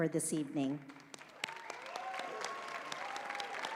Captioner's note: applause